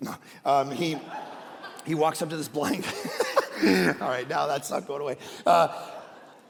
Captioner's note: laughs